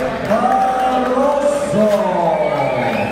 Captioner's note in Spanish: aplausos